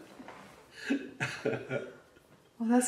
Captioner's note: laughs